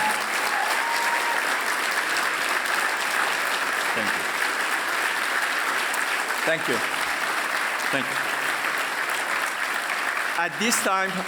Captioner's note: applause